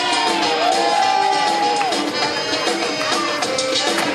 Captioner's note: audience cheering